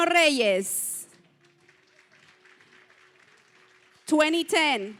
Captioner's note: applause